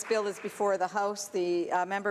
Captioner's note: some Applause